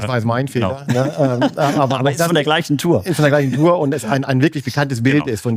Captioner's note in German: gelächter